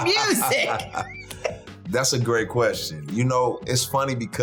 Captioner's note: laughing